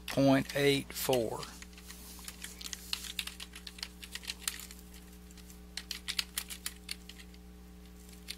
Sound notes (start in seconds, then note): 2.2 keyboard clacking